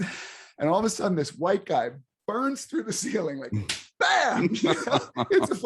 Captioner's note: laughs